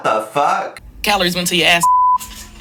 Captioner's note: beep; laughing